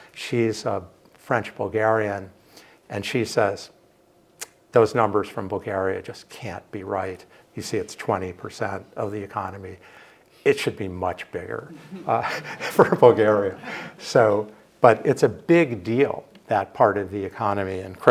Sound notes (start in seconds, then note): 13.5 audience laughs